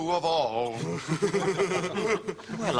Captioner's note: they laugh